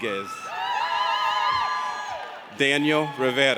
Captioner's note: audience cheers